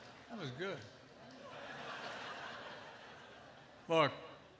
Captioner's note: laughter